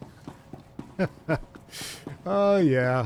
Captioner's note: laughing